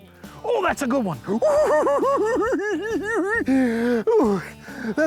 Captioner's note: giggling